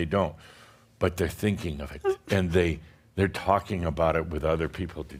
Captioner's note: continues to pretend crying